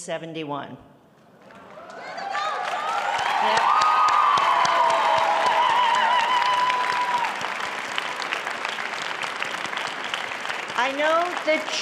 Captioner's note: applause